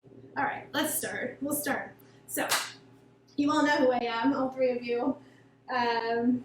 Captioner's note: claps